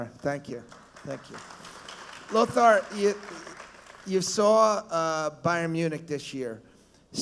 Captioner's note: applause